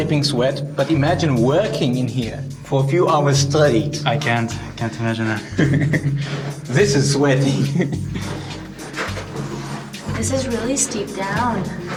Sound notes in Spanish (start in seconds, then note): 5.4 ríe